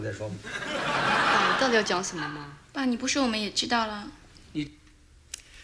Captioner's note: audience laughing; speaking in foreign language